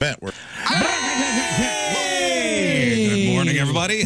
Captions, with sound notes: Bet. (Cheering) Good morning, everybody.